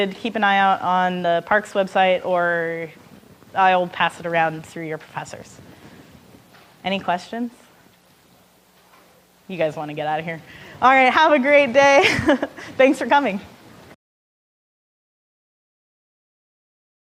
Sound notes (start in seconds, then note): 12.0 laughing